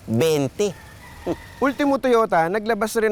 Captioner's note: scoffs